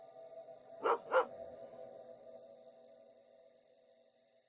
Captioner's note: eerie music; dog barking; crickets chirping